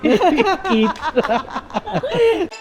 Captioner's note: laughs